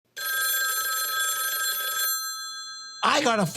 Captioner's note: phone ringing